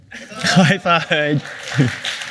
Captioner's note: applause